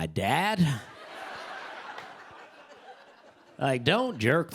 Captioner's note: laughter